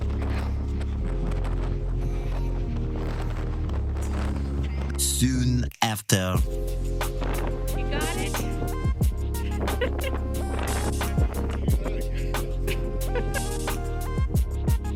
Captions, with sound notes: (wind blowing) Soon after... You got it? (laughing)